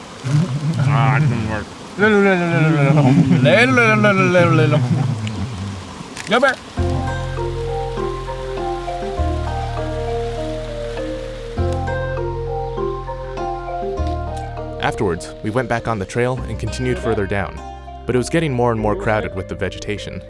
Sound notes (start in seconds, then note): 2.1 all making licking noises